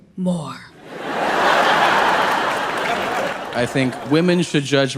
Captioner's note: audience laughing